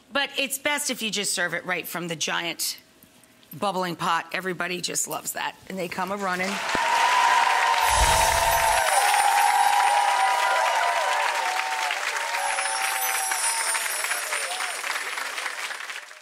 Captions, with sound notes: But it's best if you just serve it right from the giant bubbling pot. Everybody just loves that and they come a running. (crowd applauds) (crowd cheers)